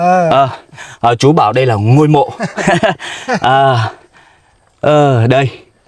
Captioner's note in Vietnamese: tiếng cười